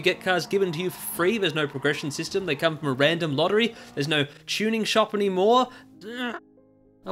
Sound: muffled groaning

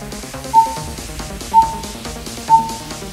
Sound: beep beep beep

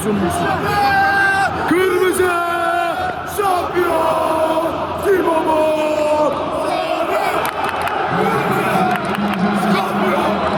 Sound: fan Cheers

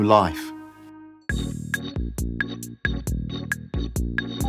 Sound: hospital noises, beeping monitor, whoosh sound

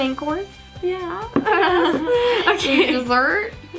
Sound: laughs

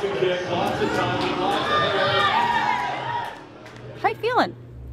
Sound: crowd cheering

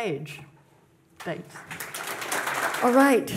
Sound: audience clapping

